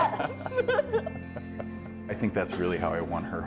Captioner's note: laughs